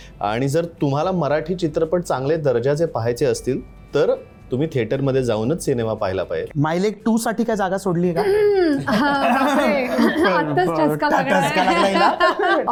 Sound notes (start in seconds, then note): 8.2 clears throat; 8.8 imitates clearing throat; 12.0 laughs